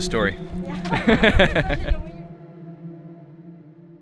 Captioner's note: laughing